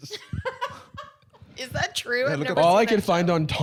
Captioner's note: laughing